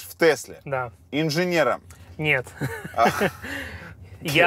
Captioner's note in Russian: оба смеются